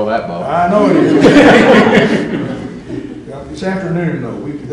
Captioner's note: laughter